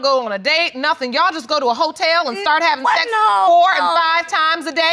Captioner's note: chuckles